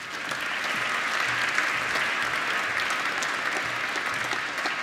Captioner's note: applause